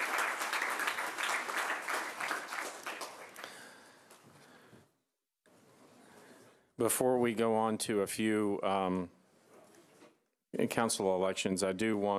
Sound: applause

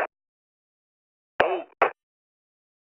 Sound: radio static

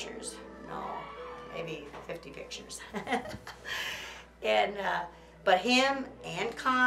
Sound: laughs

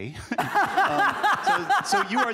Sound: laughter

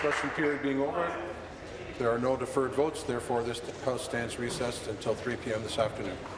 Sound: applause

